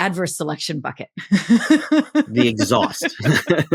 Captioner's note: laughs